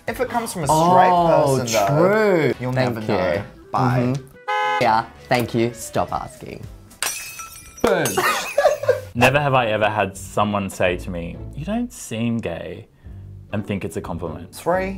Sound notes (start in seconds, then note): 4.3 car honking; 6.9 glass crashing; 8.0 laughter